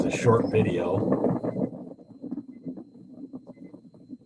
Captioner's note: audio of wind blowing into microphone